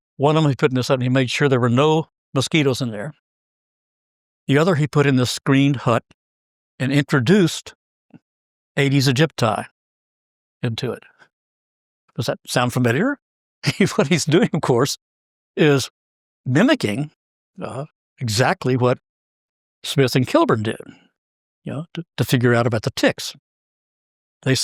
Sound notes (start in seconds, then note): 13.7 laugh